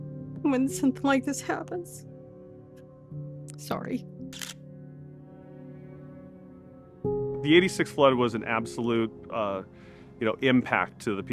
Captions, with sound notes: when something like this happens. Sorry. (camera shutter clicks) The '86 flood was an absolute, uh, you know, impact to the